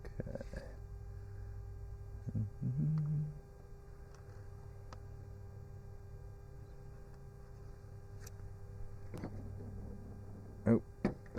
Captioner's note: humming a tune